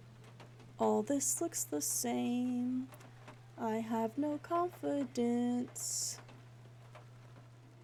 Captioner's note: sing-Song